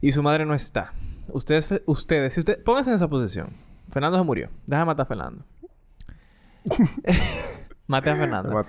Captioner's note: laughs